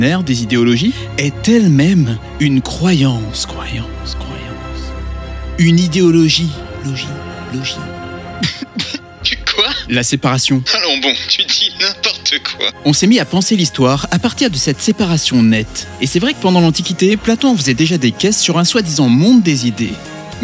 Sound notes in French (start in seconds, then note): 8.3 tousse